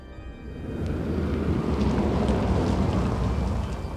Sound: wheels on dirt road

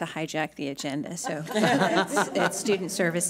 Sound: laughing

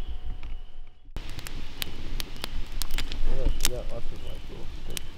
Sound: fire crackling

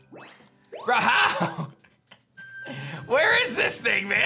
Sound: chuckles

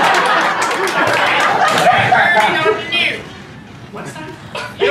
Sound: laughter; weird voice

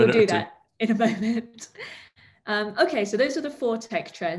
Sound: chuckles

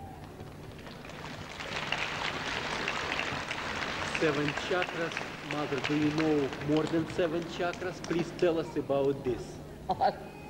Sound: clapping

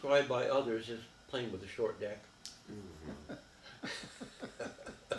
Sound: all chuckling

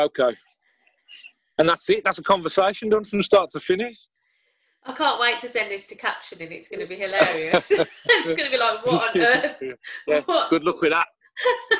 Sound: laughter

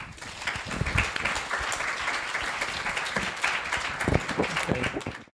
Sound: applause

